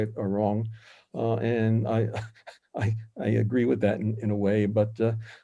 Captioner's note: laughs